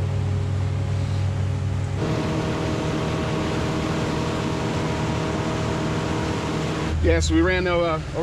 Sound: boat engine running

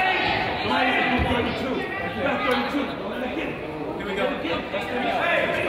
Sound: coach yells

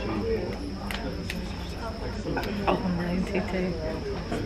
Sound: background chatter

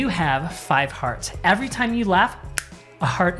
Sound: snaps

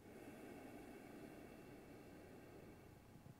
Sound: exhales

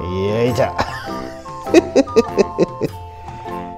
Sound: laughs

